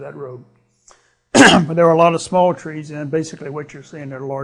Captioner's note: clears throat